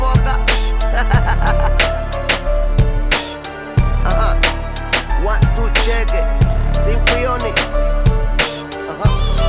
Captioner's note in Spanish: risas